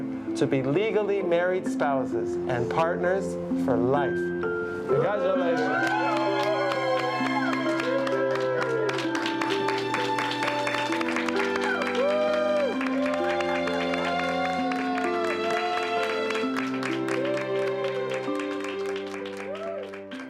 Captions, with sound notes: to be legally married spouses and partners for life. Congratulations. [People cheering and clapping].